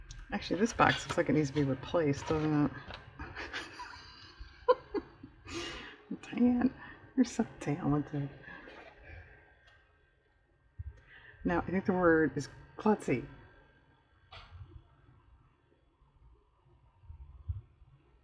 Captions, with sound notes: actually this box looks like it needs to be replaced, doesn't it (laughs) oh, Diane, you're so talented no, i think the word is "klutzy"